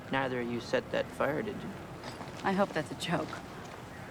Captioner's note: none